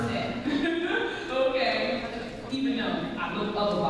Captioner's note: laughs